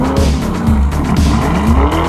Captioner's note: wrrrrooommm